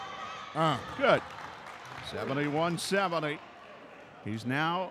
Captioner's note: clapping